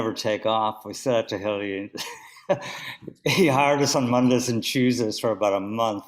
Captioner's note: laughs